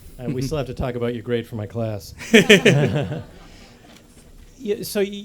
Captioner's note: laughter